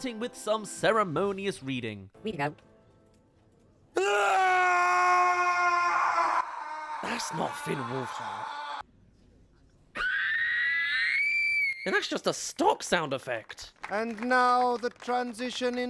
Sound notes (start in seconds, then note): 4.2 howls; 7.1 gibberish* *Scream